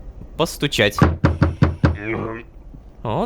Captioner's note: knock on door